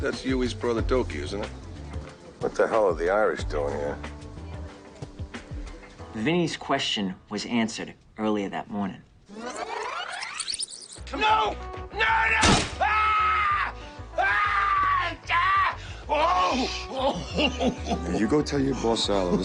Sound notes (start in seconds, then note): 9.3 sound rewinding; 12.8 bones cracking